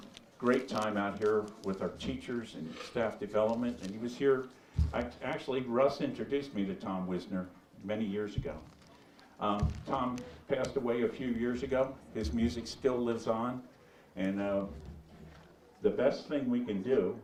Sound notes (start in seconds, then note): none